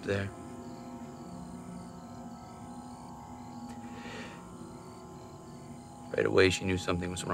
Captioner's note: crickets chirping; tense music